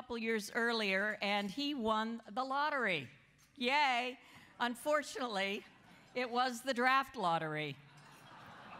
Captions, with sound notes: of years earlier and he won the lottery. Yay. Unfortunately, it was the draft lottery [laughter].